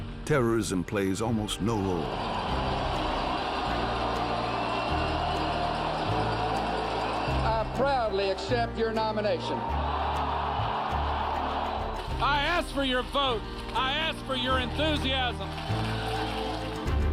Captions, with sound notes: terrorism plays almost no role. [cheering] - I proudly accept your nomination. [cheering] - I ask for your vote! I ask for your enthusiasm!